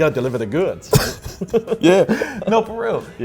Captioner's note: laughing